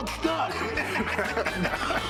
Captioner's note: laughs